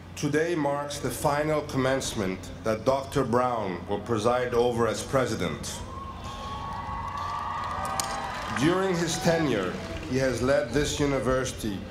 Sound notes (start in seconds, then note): 6.6 applause